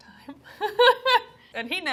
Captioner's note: laughing